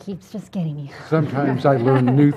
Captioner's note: laugh